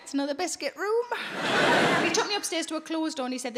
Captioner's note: audience laughing